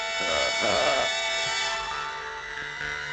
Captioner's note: chuckles